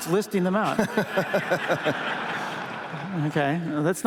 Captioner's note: laughter